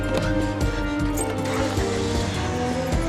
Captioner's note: panting; engine turning over